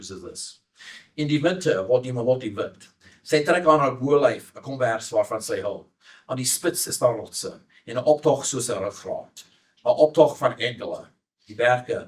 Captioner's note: speaking Afrikaans